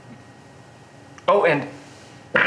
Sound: farts

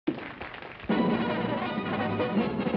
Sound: audience applauding; fanfare orchestral music

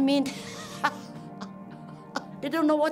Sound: she laughs

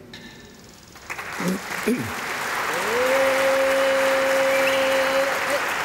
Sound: applause

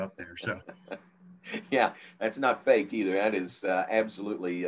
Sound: laughs

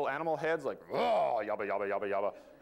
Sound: growls

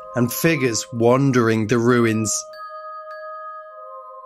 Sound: none

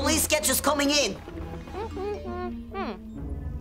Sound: humming

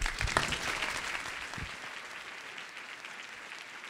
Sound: audience applauds

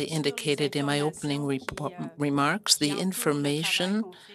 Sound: speaking French

